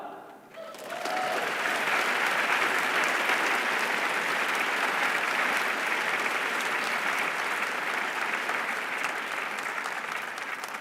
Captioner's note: applause